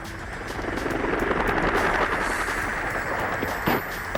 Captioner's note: helicopter whooshing